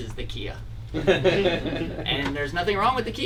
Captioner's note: laughing